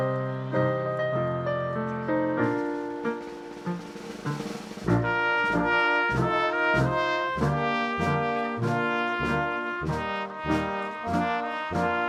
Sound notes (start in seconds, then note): none